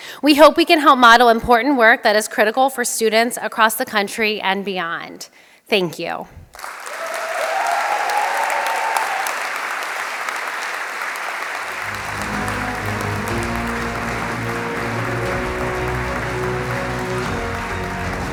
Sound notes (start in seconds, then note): 8.0 applause